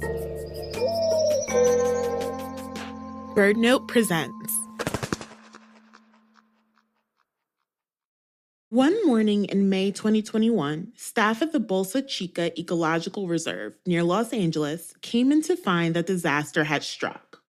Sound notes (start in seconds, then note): 4.7 wingflap SFX